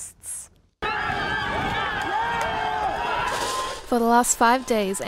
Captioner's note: crowd screaming